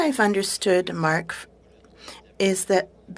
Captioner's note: speaking French